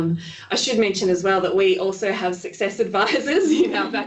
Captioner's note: laughing